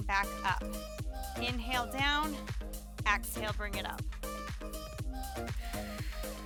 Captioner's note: exhales